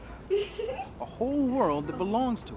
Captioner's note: person giggles